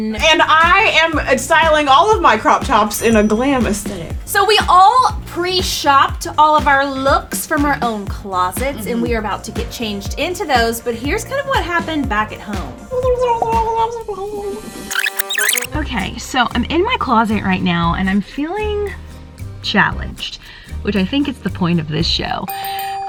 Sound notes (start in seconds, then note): 13.2 playful sound effect